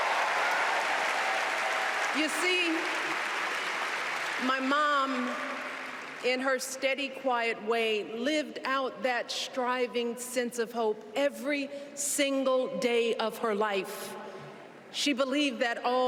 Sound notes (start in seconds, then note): 6.0 cheers and applause